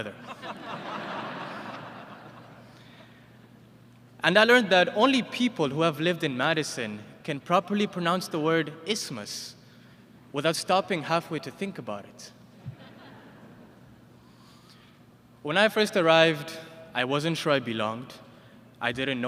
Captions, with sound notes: [ Laughter ] And I learned that only people who have lived in Madison can properly pronounce the word isthmus without stopping halfway to think about it. When I first arrived I wasn't sure I belonged. I didn't know anyone.